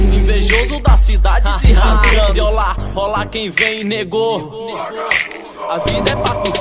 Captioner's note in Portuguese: haha